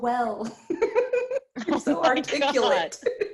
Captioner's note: laughs